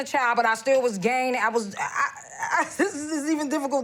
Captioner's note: laughing